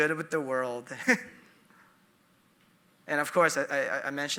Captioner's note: chuckling